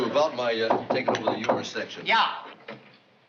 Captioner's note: knocking on door